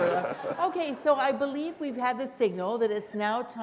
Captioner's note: laughter